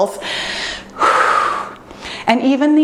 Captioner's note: exhales deeply